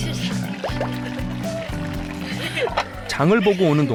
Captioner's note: simmering